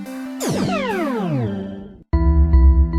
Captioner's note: teleportation sound